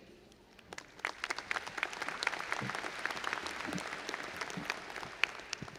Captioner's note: audience applauding